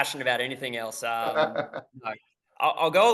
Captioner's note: laughs